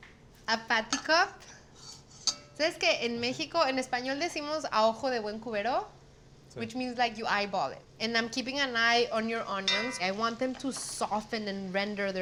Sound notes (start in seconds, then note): 2.3 speaking Spanish